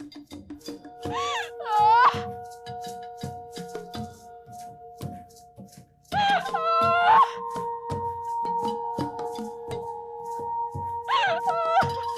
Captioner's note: hysterical wailing